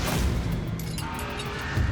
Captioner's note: clinks